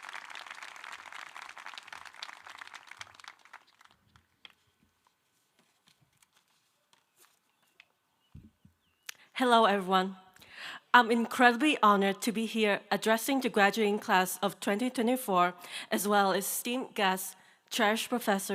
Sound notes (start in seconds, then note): 2.1 applause